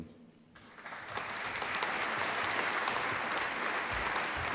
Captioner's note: applause